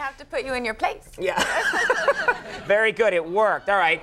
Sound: Conan laughing

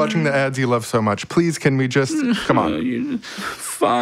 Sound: boy whimpers

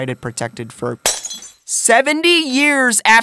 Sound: glass shatters

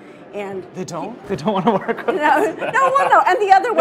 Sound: laughing

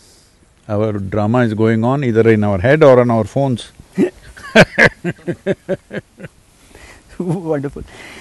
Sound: laughs

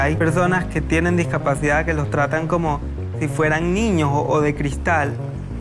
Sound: speaking in foreign language

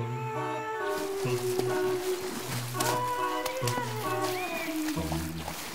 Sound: water splashing

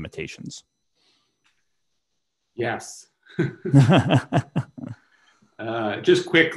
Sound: laughter

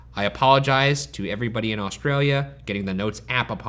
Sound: none

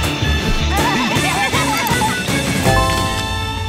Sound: all laughing

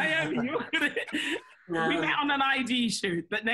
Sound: laughs

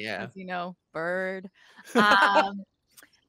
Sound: laughing

